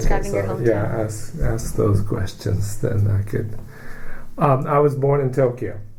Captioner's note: takes breath